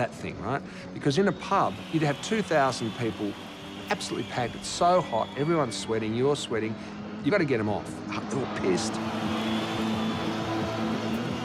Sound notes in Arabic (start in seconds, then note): 1.2 الجمهور يهتف